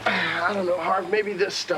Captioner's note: Evan sighing